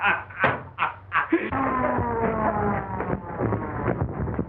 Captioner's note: laughing; siren winding down